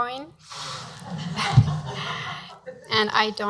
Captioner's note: laughing